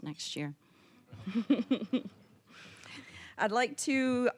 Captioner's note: all chuckling